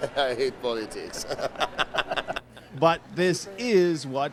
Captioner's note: laughing